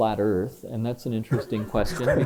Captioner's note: laughter